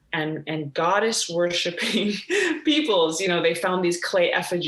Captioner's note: laughs